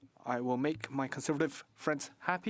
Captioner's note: speaking French